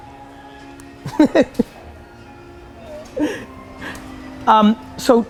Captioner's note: laughs